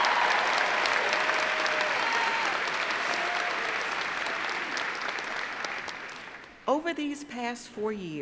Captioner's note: cheers and applause